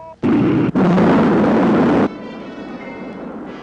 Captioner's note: rocket rumbling